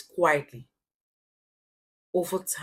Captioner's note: paause